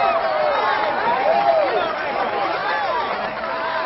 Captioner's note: all clamoring happily